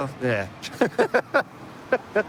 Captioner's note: laughter